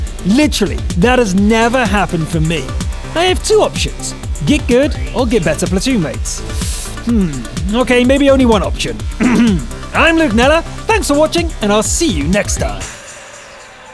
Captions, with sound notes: Literally, that has never happened for me. I have 2 options… get good or get better platoon mates… hmm, ok maybe only one option. *clears throat* I’m Luke Kneller, thanks for watching, and I’ll see you next time!